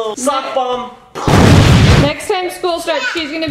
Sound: explosion

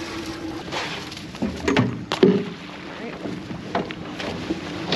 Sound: thunk, thunk; splashing

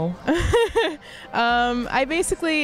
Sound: laughs

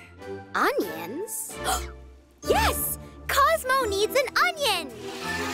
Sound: gasps; energetic music

